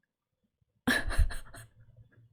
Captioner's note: laughs